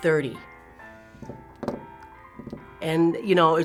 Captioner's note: drumming fingers